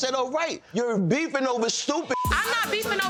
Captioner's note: beeps